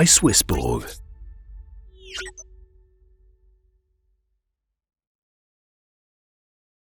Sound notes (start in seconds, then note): 1.6 machine pinging